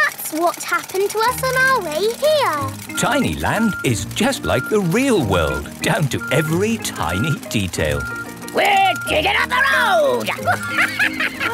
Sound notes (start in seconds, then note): 10.1 chuckles